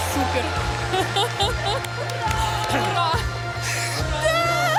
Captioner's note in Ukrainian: оплески